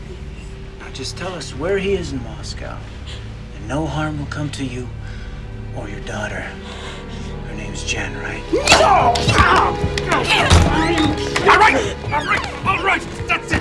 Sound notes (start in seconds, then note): 6.9 groaning